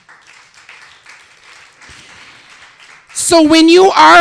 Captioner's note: applause